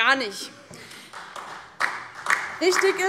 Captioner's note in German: Beifall DIE LINKE